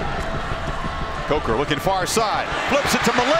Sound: voiceover

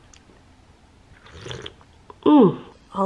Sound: slurps

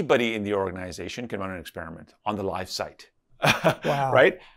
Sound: laughs

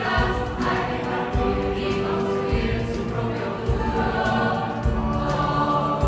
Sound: voices

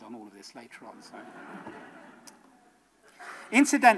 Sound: audience laughs

